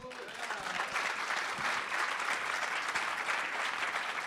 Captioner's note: applause